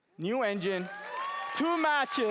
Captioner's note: applause